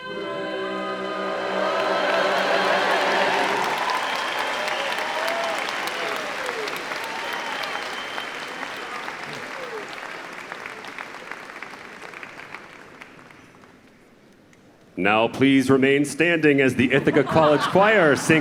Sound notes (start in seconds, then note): 6.5 applause